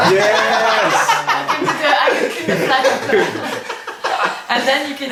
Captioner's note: cheerful laughing